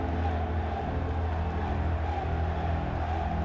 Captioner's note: cheering